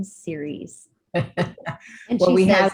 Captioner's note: laughs